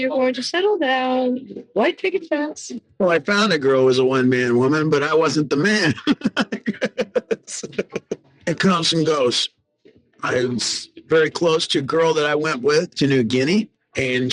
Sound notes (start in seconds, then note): 7.5 laughing